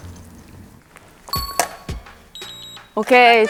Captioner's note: beep beep beep